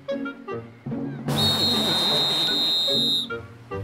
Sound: whistle blowing

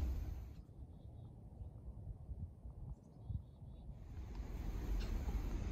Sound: birds chirping; animal & insect sounds

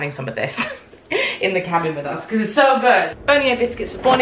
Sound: laughs

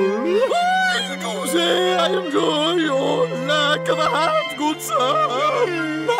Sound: in cracking overly posh voice

